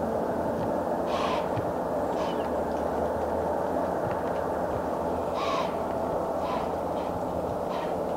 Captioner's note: deer snorting